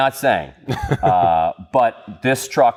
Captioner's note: laughs